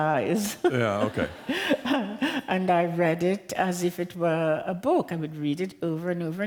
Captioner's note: laughter